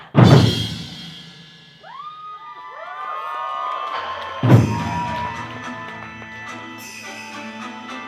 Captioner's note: cheers